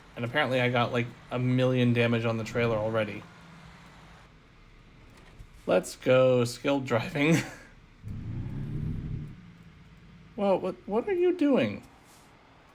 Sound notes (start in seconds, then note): 8.0 scoff